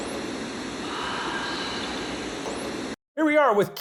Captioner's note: eerie whisper